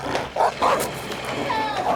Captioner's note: dog snarling; dog barking